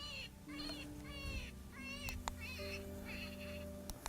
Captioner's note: coyote calls